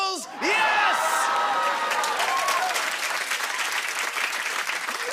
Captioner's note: cheers and applause